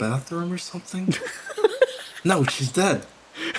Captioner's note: giggles; laughs